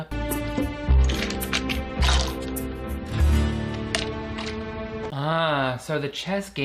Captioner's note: tense music; chess pieces rattling